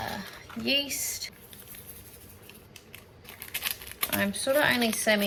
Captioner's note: yeast swooshes quietly, while the packet crinkles loudly